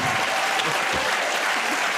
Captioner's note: cheers and applause